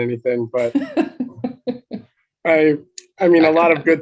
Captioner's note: laughing